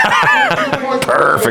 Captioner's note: laughs